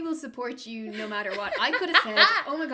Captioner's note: laughter